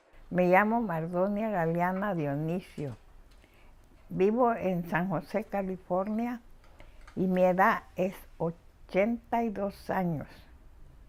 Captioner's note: speaking spanish